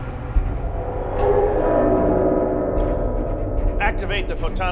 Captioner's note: low rumbling